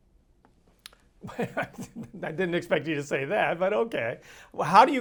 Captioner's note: ha, ha